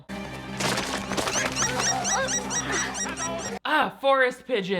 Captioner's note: birds squawking